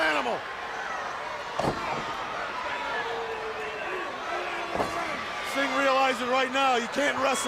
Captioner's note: crowd chatter